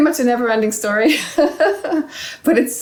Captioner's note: laughing